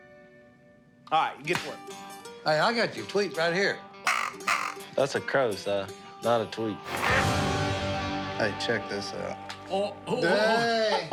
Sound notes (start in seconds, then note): 4.0 quack; 10.1 laughter